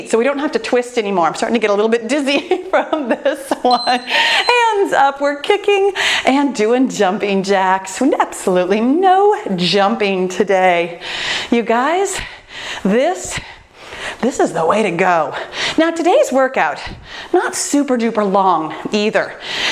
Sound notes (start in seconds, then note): 3.2 laughs; 3.6 timer beeping